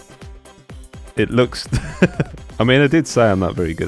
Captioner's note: laugh